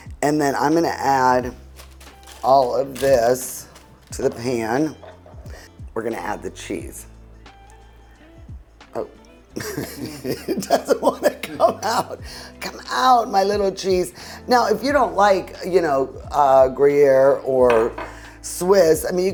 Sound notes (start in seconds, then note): 9.6 laughs